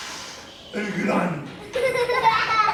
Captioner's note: children laughing